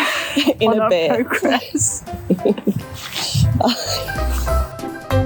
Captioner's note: giggles